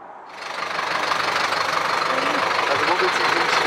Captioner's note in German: Lautes Motorenknattern